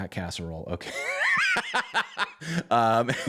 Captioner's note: laughter